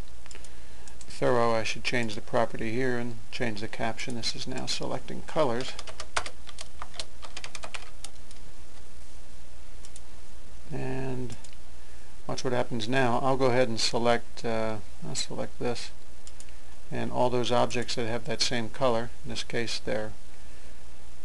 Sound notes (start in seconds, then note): 5.6 typing